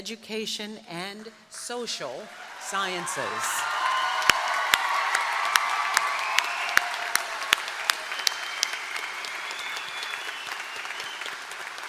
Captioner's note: applause